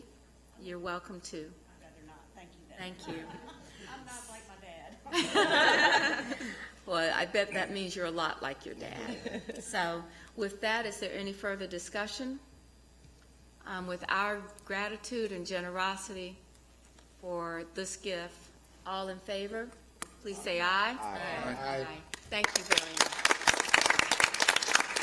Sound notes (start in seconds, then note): 8.9 laughter